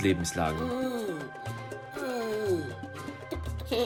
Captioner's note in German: Lars keucht